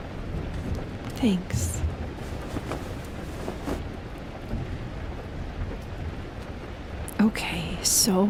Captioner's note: A soft rustling as she moves closer